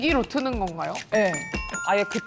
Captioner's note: correct-answer sound effect